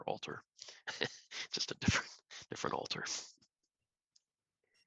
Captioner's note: laughter